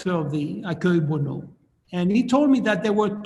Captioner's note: speaking in foreign language